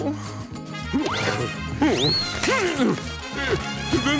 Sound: grunting

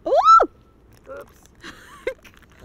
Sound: screams

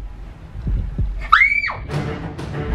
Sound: shrieks; dramatic music intensifies

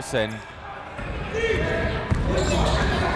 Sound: chatter

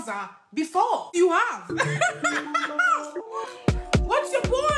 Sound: laughs

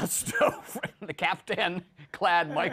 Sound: laughs

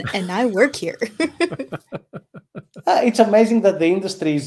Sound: chuckling

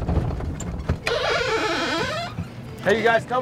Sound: vehicle door squeaking

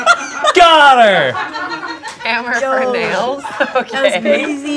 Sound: cackling; group laughing

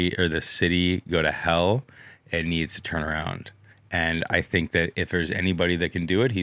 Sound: none

